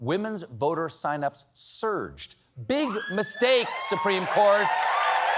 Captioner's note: cheers and applause